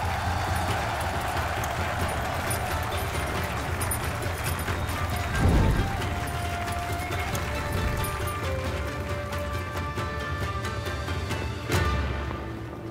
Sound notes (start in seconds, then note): 0.9 crowd cheering; 0.9 whooshes